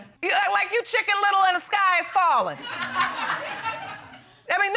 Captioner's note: audience laughing